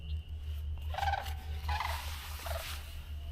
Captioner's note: bird Sounds